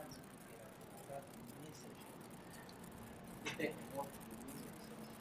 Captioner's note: visitors chattering indistinctly